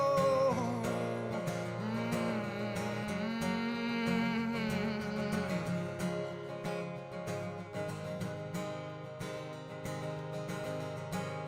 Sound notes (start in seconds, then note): 2.4 hums with guitar